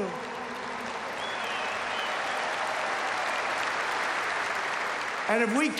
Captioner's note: applause